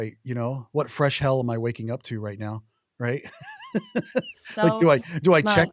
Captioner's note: laughs